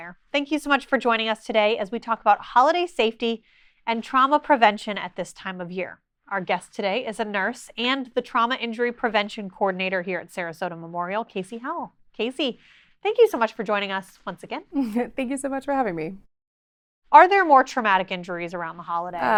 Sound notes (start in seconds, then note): 14.9 chuckles